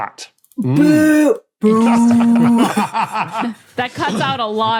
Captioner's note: group laughing